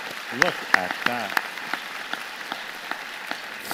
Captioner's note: applause